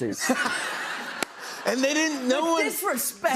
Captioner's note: laughter